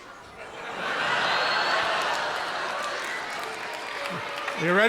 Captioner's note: audience laughing